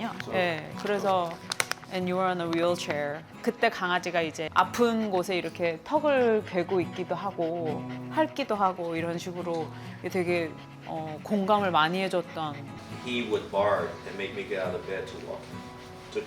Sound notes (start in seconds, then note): 3.4 out of breath